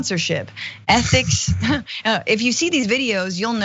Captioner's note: laugh